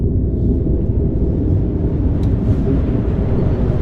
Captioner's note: train rumbling increases